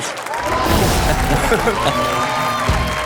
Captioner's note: audience cheers; upbeat music